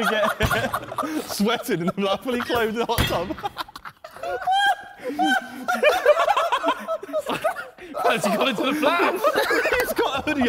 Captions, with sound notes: - Sweating. Not fully clothed or something. (Men laughing)